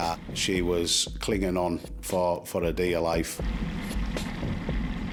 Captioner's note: boat engine hums